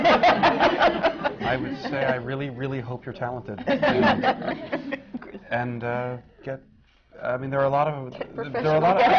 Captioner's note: laughter